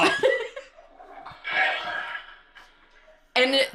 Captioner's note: toilet flushing